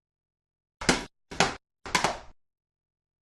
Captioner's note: bangs